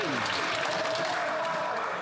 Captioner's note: applause